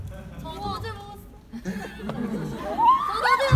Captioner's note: audience member speaking in foreign language; audience screaming; audience laughing